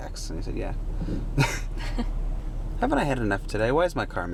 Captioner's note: chuckle